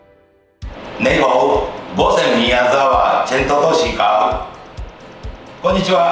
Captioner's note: chef speaks in Chinese